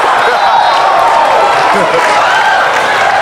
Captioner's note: laughing